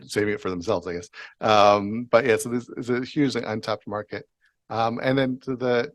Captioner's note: chuckling